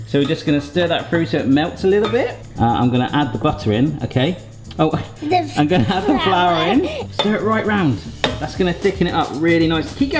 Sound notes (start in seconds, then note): 4.7 laughs